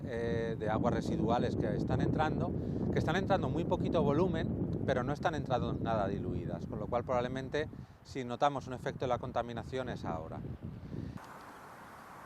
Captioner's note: Spanish